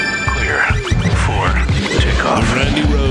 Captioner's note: swirling music; voiceover